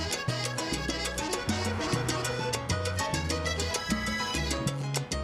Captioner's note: horn honks